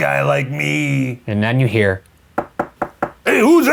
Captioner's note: knocking